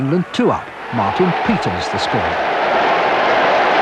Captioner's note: crowd roaring